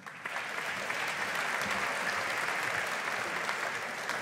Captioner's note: audience applauding